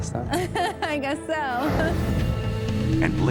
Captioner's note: laughing